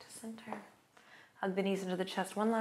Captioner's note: exhales